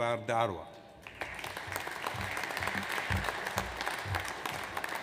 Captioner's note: audience applauds